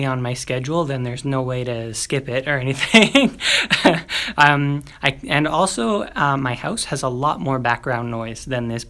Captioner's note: laugh